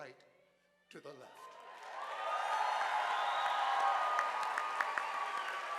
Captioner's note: audience applauding